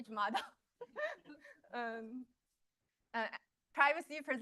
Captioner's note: laughter